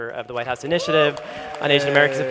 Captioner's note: applause